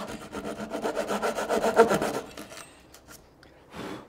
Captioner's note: tool scraping